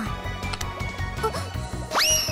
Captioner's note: gasp